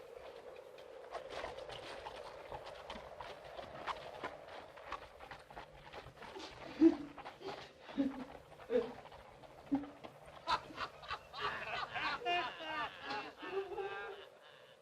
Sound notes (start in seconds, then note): 6.0 woman sobbing; 9.6 men laughing